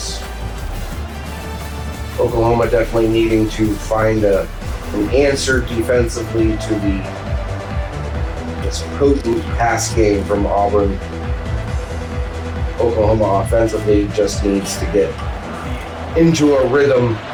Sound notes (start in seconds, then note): 6.7 crowd Noises